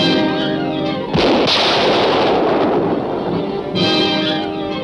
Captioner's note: guns roaring